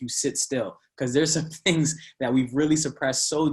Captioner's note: laughing